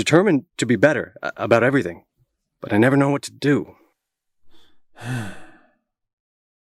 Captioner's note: sigh